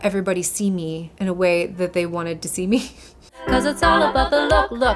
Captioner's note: chuckles